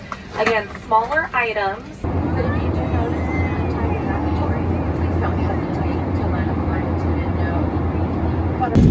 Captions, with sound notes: Again, smaller items (airplane passenger chatter)